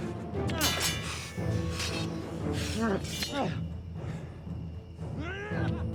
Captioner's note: dramatic music continues; swords clanging; fighters grunting